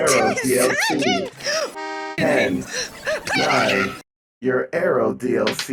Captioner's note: car horn!